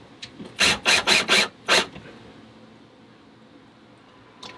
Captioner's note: drilling sounds